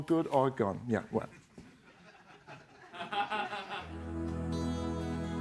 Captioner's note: laughter